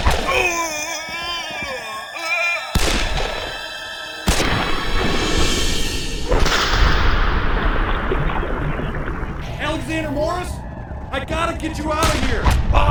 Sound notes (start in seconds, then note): 2.7 pow; 6.3 loud crack; 7.4 bubbling sound; 11.9 pow